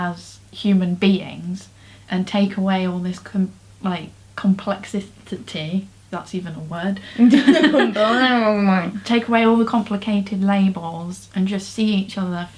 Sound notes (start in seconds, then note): 7.2 both laugh